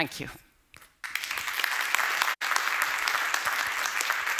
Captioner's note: applause